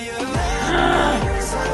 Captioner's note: gasp